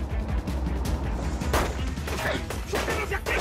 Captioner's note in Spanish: Disparos